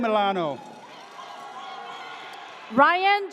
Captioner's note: audience cheers